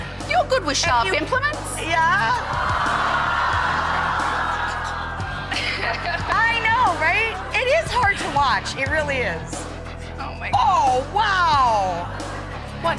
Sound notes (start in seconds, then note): 2.3 audience gasping